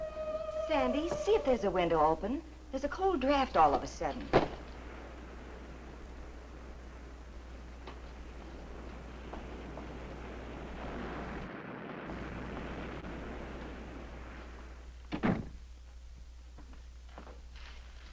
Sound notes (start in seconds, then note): 0.0 eerie music; 4.2 waves crashing nearby